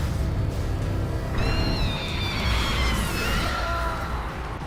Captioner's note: high-pitched scream